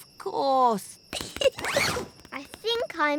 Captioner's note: giggles